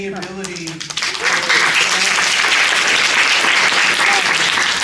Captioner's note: cheering, applause